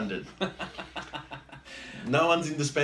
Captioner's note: laughs